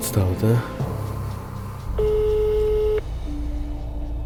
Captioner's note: dial tone